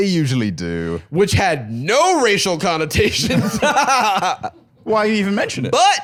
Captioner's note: laughs